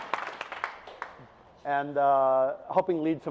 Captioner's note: audience applauds